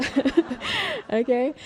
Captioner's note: crowd laughs